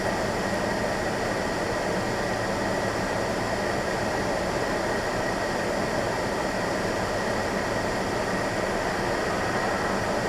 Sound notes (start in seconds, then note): none